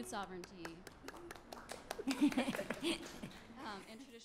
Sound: applause

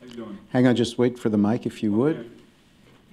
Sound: off mic

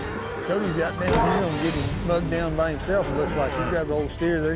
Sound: steer mooing

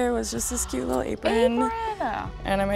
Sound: gasps

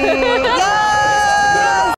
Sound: all cheering

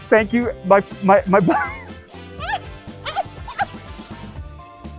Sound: laughs

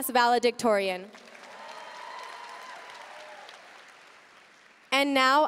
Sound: audience cheering and applauding

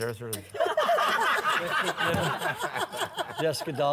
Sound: laughter

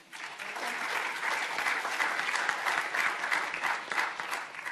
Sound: audience applauding

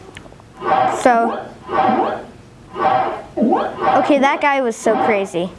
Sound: game sounds

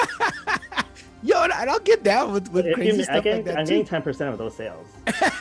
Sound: laughs

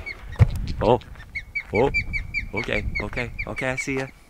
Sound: loud chirping

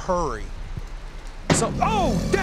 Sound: creature growling

